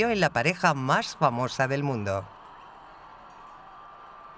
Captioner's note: crowds cheer